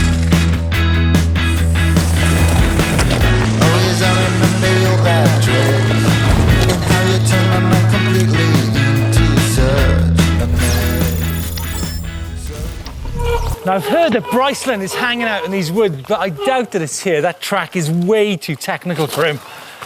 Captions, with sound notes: (electric sound effect plays) Now I've heard that Bryceland is hanging out in these woods. But I doubt that it's here. That track is way too technical for him.